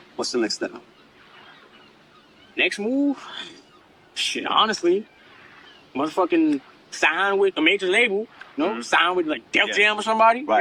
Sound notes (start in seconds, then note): 1.3 wind and oceans background sounds